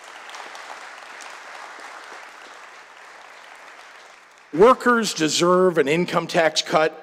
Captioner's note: applause